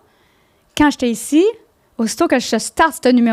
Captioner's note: in french